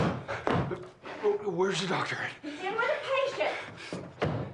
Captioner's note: running footsteps